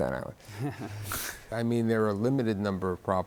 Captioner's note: chuckles